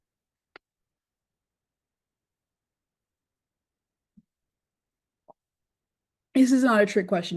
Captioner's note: pause